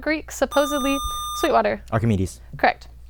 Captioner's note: buzzer